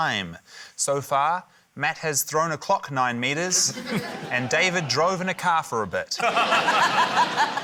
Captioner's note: laughter